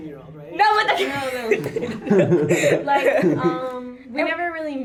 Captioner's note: laughter